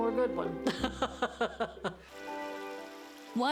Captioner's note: laughing